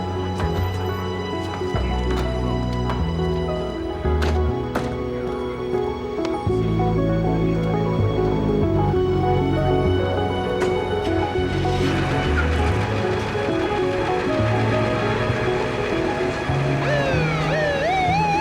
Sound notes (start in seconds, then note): 10.6 engine starts; 16.7 siren wailing